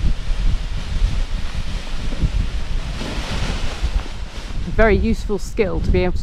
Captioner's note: heavy winds blow; paraglider crinkles